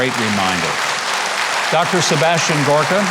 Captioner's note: audience clapping